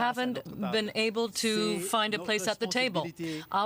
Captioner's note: speaking French